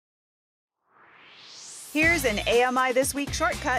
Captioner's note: swoosh